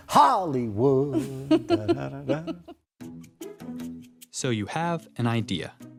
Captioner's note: laughs